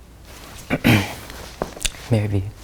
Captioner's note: clears throat